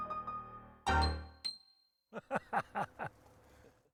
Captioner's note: lively music ends; laughing